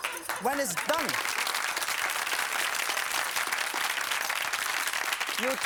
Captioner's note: audience applauding